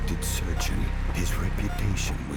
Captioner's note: machines beeping